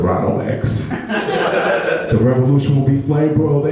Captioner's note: laughing